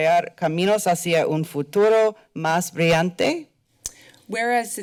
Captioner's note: foreign language